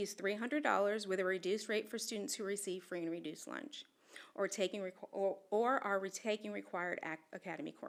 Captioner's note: none